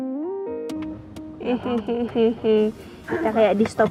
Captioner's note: weird laugh